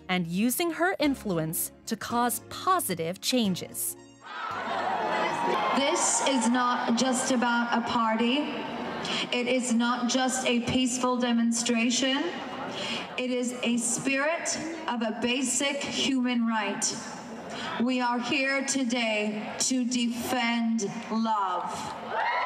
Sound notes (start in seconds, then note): 4.4 crowd chattering